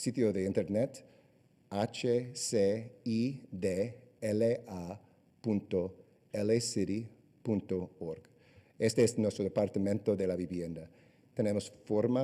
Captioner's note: answering question in spanish